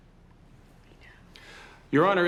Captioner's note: whispering